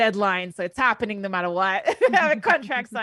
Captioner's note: laughs